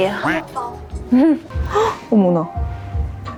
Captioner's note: gasp